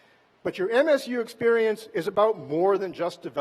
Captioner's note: none